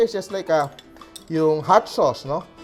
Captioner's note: clang